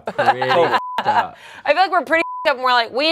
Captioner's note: beep